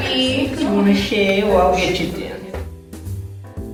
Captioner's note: chatter